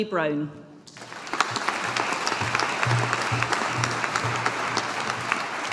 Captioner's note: audience applauding